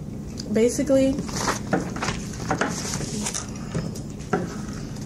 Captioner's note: rustling papers